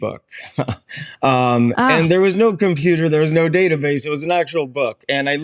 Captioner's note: chuckles